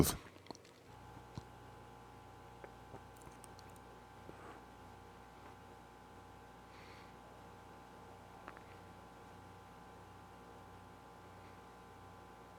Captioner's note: silence